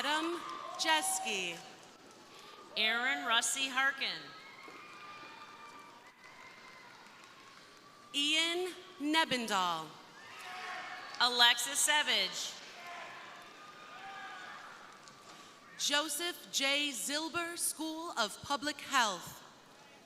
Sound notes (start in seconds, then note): 4.2 crowd cheering; 10.0 crowd cheering; 12.7 crowd applauding